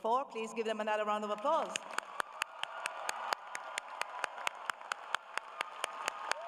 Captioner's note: cheering